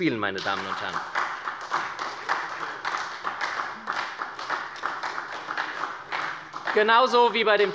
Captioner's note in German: Beifall bei der SPD